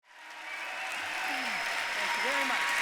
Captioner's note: audience cheering